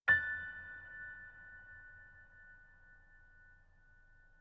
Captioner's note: gently chiming bells